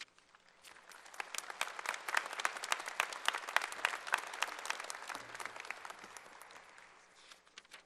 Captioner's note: applause